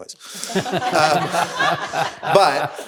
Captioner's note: everyone laughing